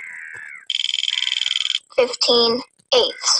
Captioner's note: wheel clicking